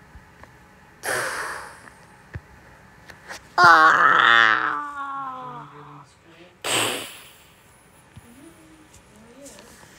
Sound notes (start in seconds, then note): 3.6 screaming